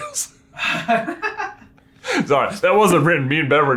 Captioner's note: laughs